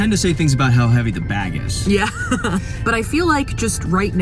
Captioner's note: laughs